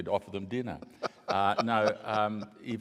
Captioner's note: laughs